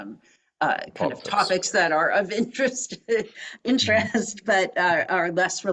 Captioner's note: laugh